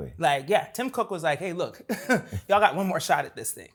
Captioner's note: laughs